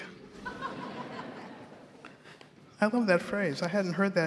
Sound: audience laughs

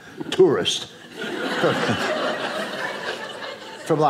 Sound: audience laughing

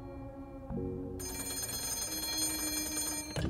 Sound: phone still ringing

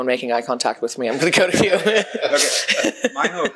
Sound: laughs

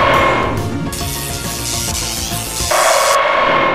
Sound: electricity SFX; Gryffyn jumpscare SFX

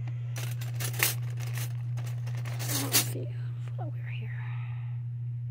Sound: flatware clanking

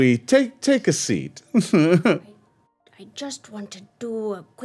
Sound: chuckles

